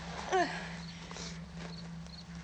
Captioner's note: sigh